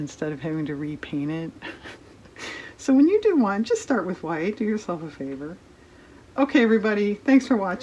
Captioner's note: laughs